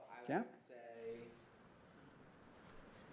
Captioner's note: none